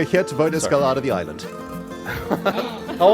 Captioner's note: confused laughter